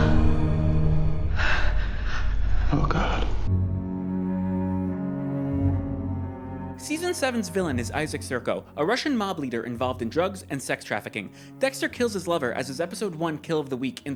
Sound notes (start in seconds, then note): 1.3 heavy breathing